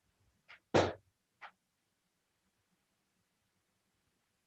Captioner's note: chair banging